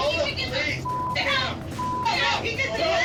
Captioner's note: overlapping shouting, cursing